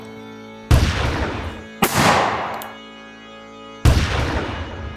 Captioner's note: gun banging